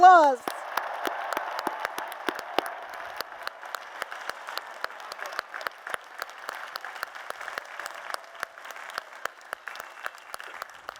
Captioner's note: applause